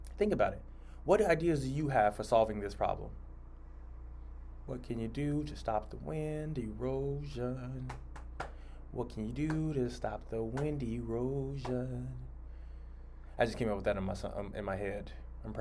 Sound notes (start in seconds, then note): 7.9 claps